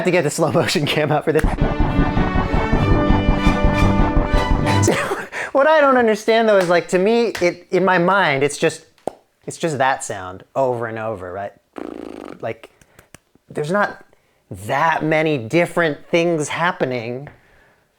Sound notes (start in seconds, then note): 1.4 dramatic music; 11.7 blows raspberry